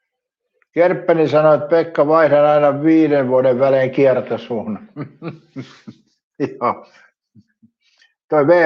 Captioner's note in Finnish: naurua